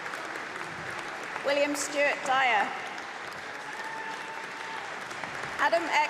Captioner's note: applause